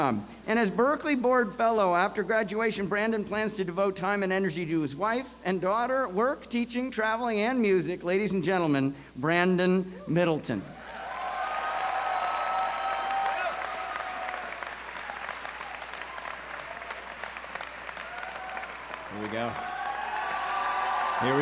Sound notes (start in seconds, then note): 10.9 applause